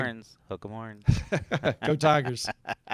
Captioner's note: laughing